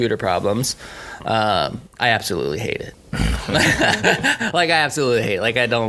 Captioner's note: laughing